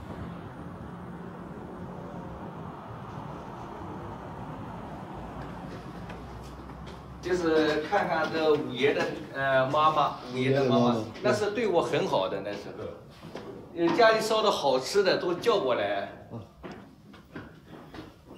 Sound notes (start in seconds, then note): 1.3 distant cars whooshing; 7.2 speaks in Chinese language